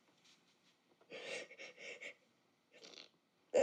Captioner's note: cries